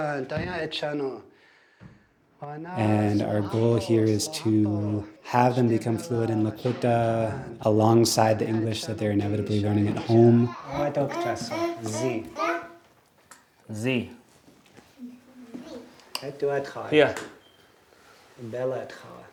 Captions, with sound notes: And our goal here is to have them become fluent in Lakota alongside the English that they're inevitably learning at home. (speaking Lakota)Zi. Zí. (students speaking Lakota)Zi. (speaking Lakota)